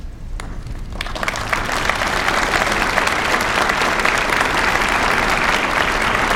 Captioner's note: applause